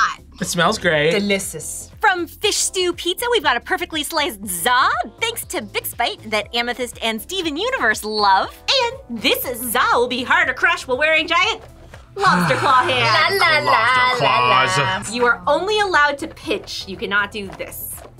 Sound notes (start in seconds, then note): 12.0 sighs